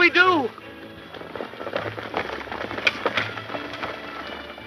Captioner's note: horses galloping